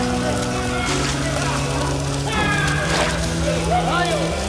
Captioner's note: water splashes